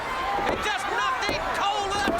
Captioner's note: crowd cheering